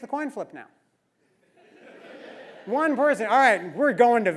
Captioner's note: laugh